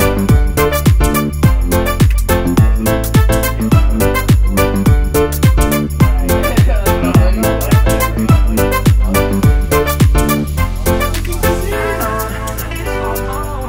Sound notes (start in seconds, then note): 6.5 laughter; 9.9 electronic music